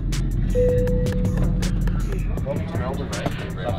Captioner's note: seatbelt bell